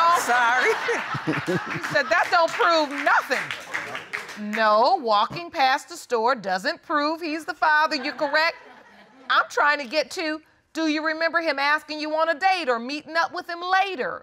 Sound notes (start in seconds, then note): 0.0 laughs; 0.8 chuckles; 3.3 audience applauds lightly